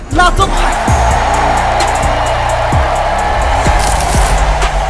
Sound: applause

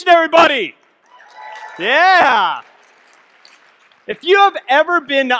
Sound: audience clapping, cheering

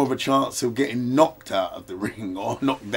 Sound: laughs

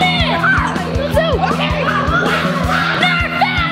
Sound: excited shouting

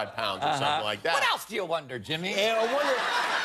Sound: laughter

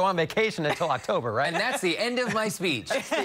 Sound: laughter

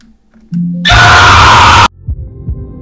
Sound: screaming

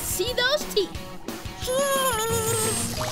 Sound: squeaking

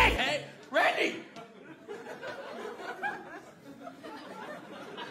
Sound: audience laughter

